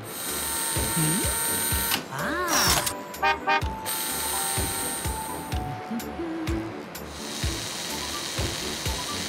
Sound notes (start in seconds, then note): 0.0 buzzing; 3.2 honking; 4.6 whirring